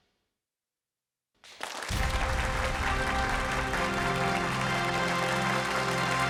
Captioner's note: applause